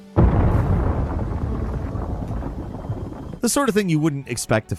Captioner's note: loud explosion